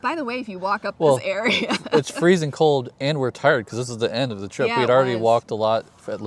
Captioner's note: laughs